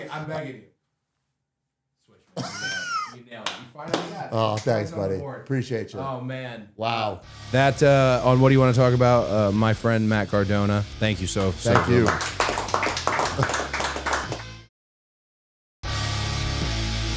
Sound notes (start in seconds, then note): 11.2 audience clapping; 12.6 rock music